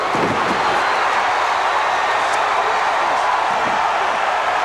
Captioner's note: crowd cheers; crowd's roar drowns out commentary